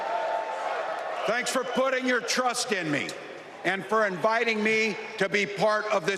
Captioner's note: cheers and applause